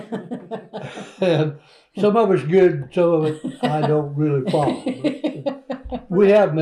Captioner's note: laughter